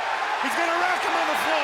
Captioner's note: audience cheers